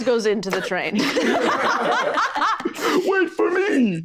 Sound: group laughing

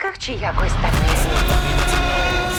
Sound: roaring

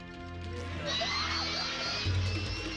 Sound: grunting

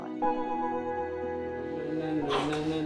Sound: voice fades away

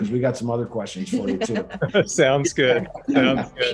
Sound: laughing

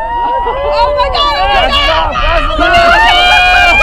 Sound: people exclaiming

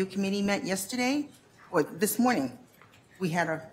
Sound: none

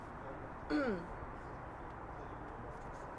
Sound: clears throat

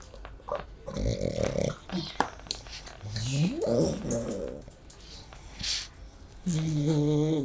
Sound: oink oink oink

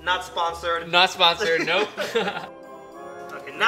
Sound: laughter

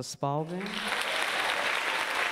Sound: applause

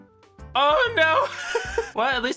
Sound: laughs

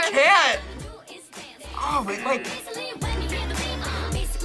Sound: buzzer

